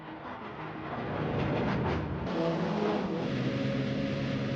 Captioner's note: car engines roaring